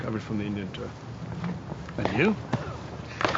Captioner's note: grunts; bat cracking